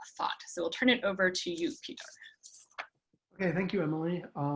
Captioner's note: speaks faintly